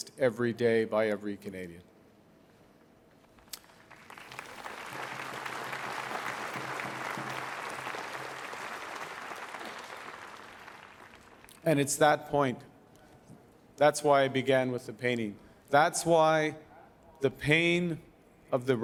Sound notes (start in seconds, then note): 3.4 applause